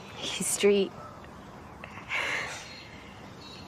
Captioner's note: both chuckle